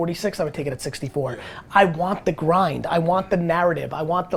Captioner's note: none